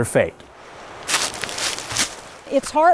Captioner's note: leaves crunching